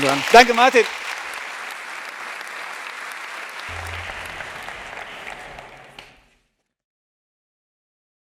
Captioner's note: applause